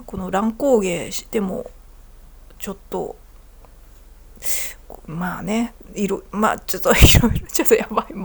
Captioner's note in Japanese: 笑い